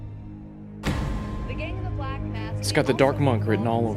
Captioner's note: TV news play in the background